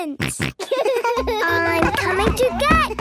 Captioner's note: giggles, snorts